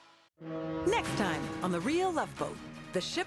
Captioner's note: horn blows